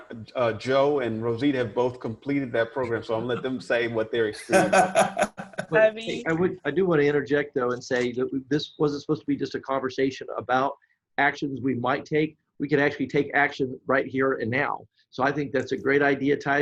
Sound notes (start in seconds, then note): 4.6 laughing